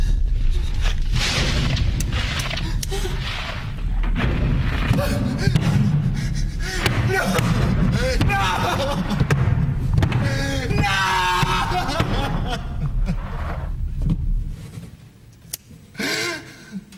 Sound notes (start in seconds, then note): 4.9 man gasping, panting; 12.4 crying